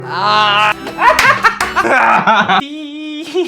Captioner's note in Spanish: Risas